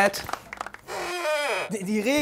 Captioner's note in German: Knarzen